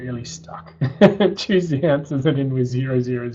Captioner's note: laughs